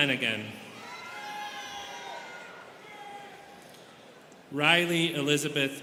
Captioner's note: students cheering